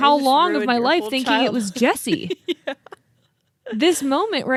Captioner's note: laughs